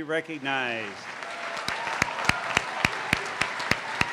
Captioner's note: applause